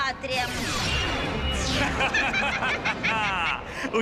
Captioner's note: laughs evilly